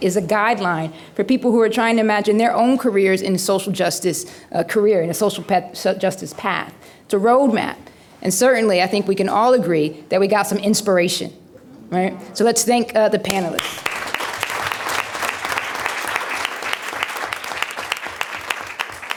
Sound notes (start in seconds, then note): 13.5 applause